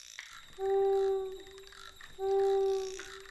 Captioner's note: hoot hoot